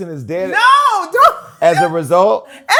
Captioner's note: laughs